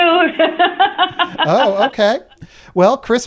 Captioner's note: laughter